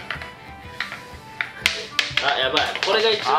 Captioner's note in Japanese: 玉が落ちる音